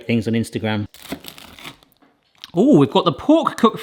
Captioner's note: pie crunches